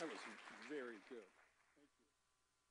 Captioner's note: applause